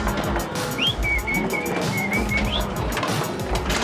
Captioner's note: whistling